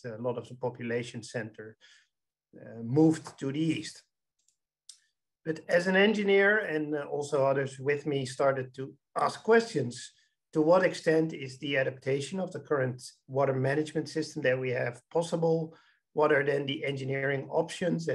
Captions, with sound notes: a lot of the population center moved to the East. (mouse clicking) But as an engineer, and also others with me, started to ask questions. To what extent is the adaptation of the current water management system that we have possible? What are then the engineering options,